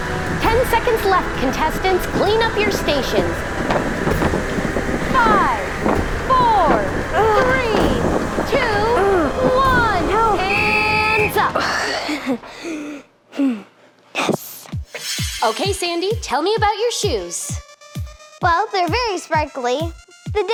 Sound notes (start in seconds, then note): 10.6 whistle blows; 11.3 sighs